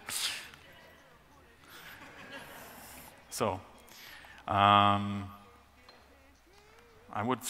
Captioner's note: chuckles from the audience